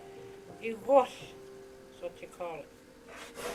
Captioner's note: speaking in language